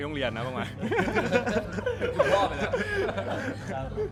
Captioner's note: laughing overload